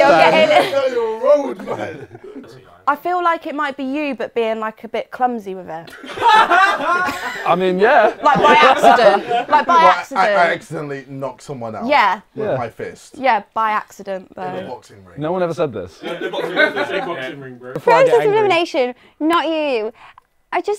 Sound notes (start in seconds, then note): 5.9 people laughing